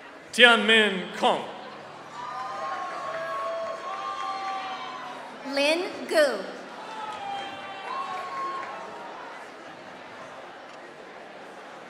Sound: applause; applause

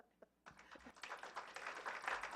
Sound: clapping

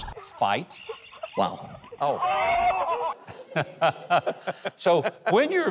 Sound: laughs lightly

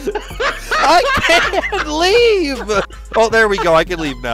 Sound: laughter

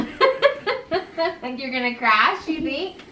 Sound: laughs

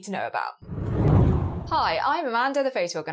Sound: air swooshing

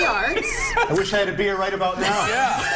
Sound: laughter

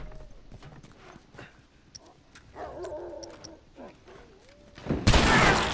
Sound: dogs barking

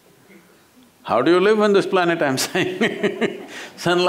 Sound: laughter

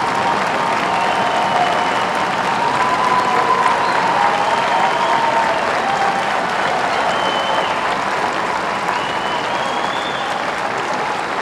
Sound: applause

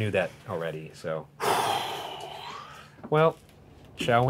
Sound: sighs

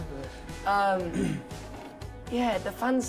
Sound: clears throat

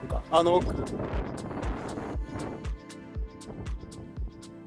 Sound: the wind

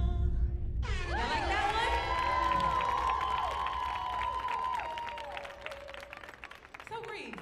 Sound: audience cheering

